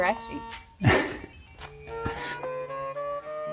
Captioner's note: laugh